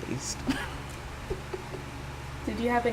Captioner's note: laughing